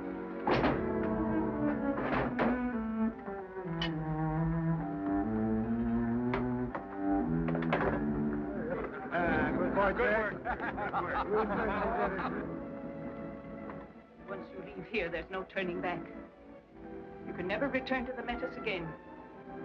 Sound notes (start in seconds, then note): 8.5 men chatter; 11.3 men laugh